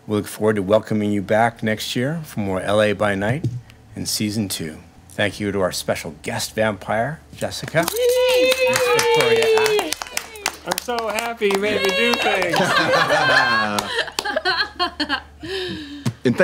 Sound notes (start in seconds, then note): 7.8 cheering; 11.0 group clapping; 11.7 group laughing